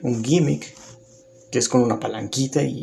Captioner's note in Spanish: Silencio